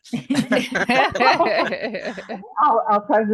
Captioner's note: laughter